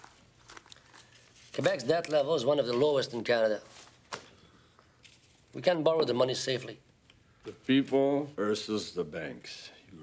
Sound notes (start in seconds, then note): none